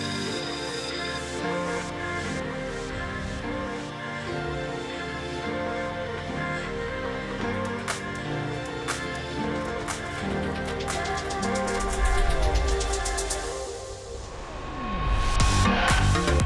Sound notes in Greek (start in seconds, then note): 5.5 Χειροκρότημα